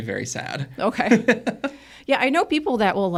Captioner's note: laughs